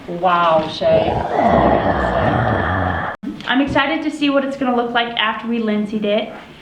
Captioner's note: growling